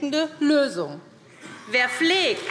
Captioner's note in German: Beifall SPD